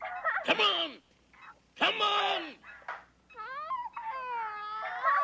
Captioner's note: baby crying